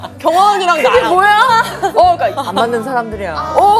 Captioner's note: the duo burst out laughing in front of juniors